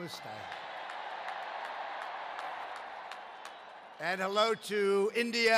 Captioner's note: applause